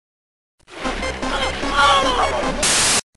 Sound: screams

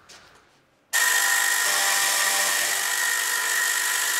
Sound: buzzing, sawing noise

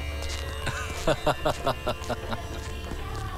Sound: laughs

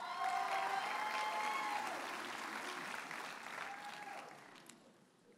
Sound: audience cheers and applauds

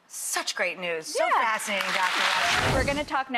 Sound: audience clapping

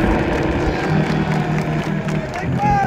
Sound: cheering and applause

